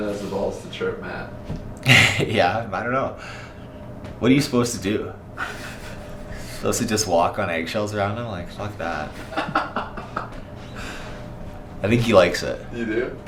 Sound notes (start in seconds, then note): 9.2 laughing